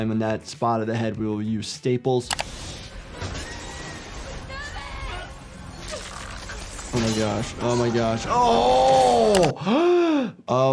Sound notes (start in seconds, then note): 2.7 glass shattering; 3.4 passengers screaming; 9.4 gasping